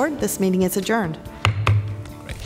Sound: gavel sounds

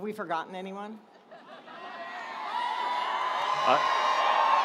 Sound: audience cheering

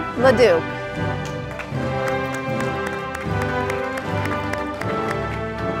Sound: audience applauding

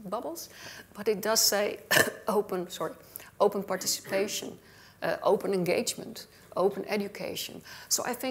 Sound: coughs

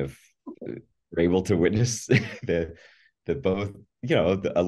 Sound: laughs

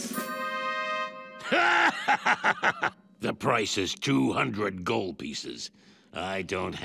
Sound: laughing

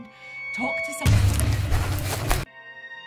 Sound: loud panicked running

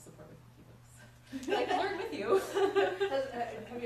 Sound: laugh

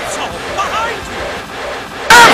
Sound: whoosing and reverse whooshing now faster

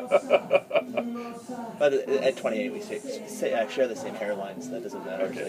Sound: laughs

